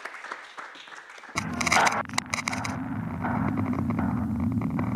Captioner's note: applause